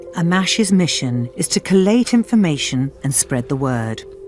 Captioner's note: voiceover